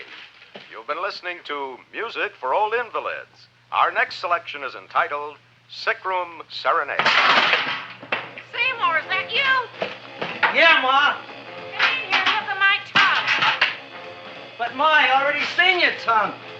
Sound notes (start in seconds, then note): 7.0 pot clanging